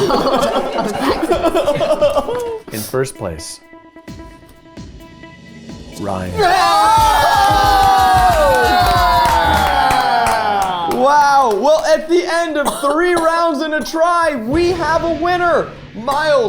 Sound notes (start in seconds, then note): 0.0 group laughing; 4.6 tense music; 6.3 group cheering; 7.3 upbeat bright music